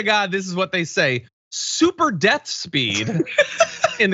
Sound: laugh

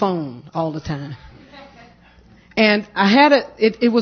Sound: laughter

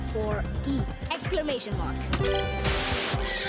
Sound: beeping; screeching

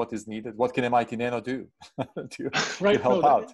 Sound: chuckling

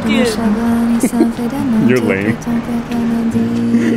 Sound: laughs

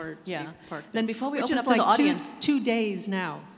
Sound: none

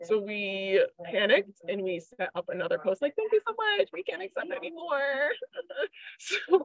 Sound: laughs

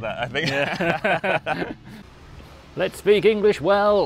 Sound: laughing

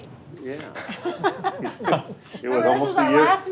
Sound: all laughing

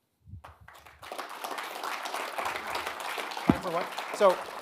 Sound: audience applauding

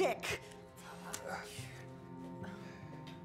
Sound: grumbling

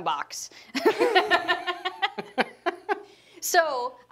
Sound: laughing

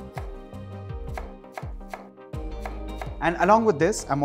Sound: chopping sound

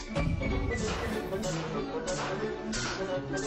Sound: machinery whirring

